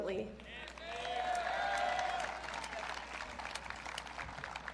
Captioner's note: audience cheering